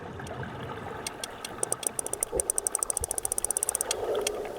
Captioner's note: rapid clicking